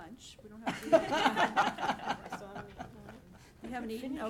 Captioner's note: laughing